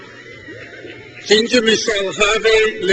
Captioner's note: crowd cheers